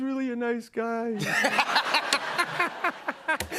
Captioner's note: laughter